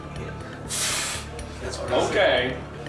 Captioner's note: scoffs